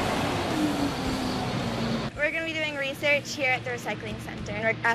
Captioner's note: loud roar of the truck's engine